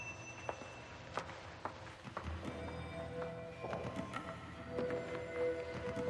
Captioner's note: footsteps clacking over eerie electronic music